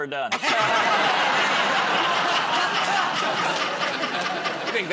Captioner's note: laughter